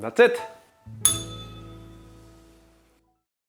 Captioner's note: bell rings